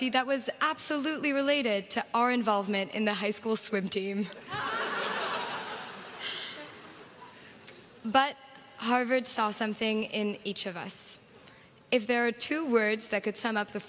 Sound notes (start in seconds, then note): 8.8 laughter